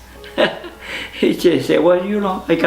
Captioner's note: laughs